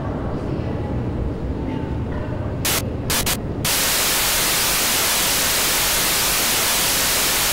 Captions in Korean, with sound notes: Xenon：정문에 너 때문에 온 사람들이 널려있다고. 고개를 숙여. [신호 중단]